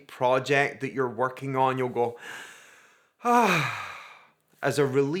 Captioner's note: sighs